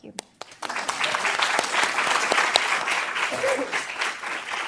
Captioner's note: applause